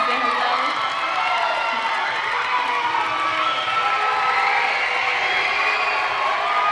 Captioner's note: audience cheering drowns out speaking